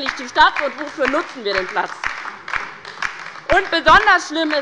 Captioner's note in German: Beifall bei der LINKEN